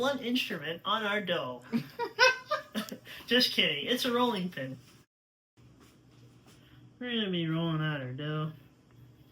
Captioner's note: laughter off-screen